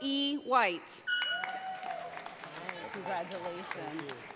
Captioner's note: audience applauds